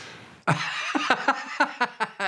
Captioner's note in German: Lachen